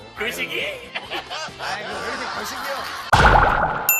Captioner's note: laughing and crying